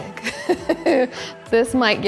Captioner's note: laughing